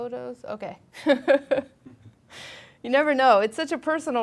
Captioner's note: laughing